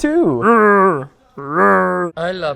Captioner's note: grunting rhythmically